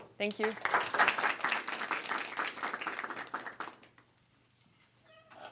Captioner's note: applause